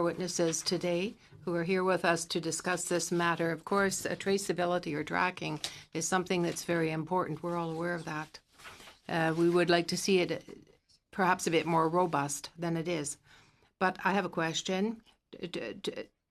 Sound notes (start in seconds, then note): 1.0 speaking French